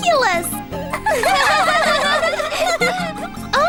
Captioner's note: laughing